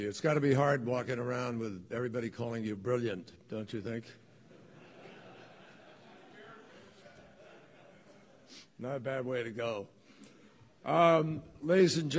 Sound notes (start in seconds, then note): 6.4 laughter